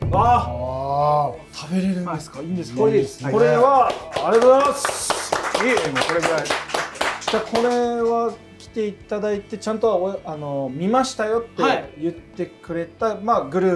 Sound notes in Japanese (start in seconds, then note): 2.7 拍手